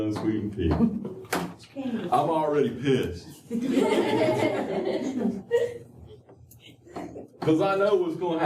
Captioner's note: laughter